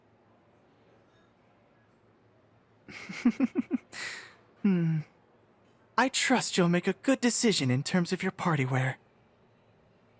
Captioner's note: chuckle softly